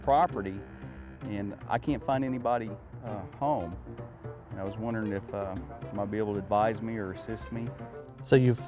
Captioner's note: crickets chirping